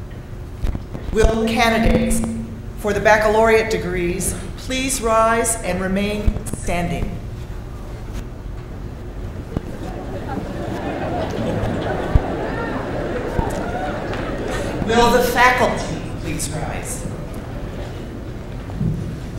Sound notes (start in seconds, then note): 9.4 commotion